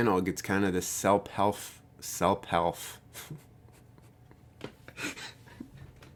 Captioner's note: laughs